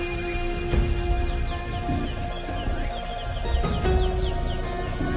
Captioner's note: birds chirping